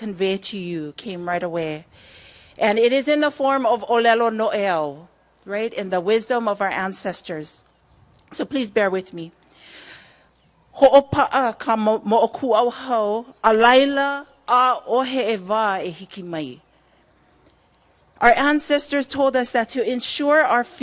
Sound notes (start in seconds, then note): 11.1 spoken in Hawaiian - translation pending